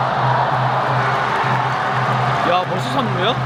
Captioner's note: they immediately focus on the game as the crowd cheers